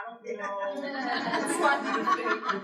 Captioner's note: laughter